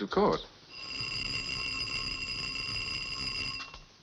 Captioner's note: bell ringing